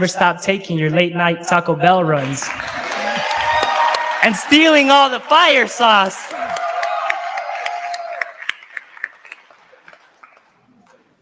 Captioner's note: audience cheers